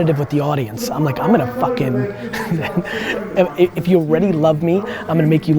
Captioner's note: laughs